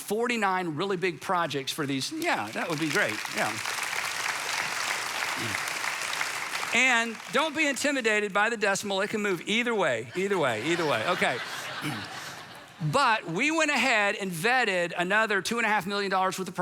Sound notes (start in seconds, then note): 1.8 congregation applauds; 10.0 congregation laughs